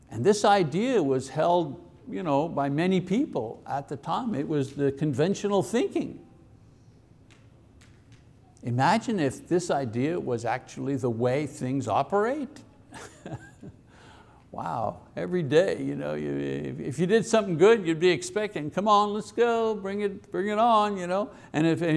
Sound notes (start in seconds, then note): 12.9 laughs